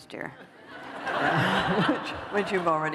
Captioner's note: laughter